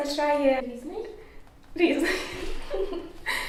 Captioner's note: laughter